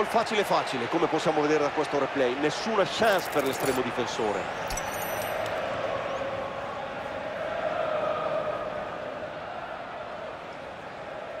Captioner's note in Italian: Applauso